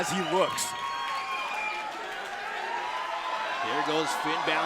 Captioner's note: crowd cheering